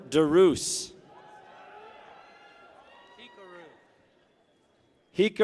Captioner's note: people cheer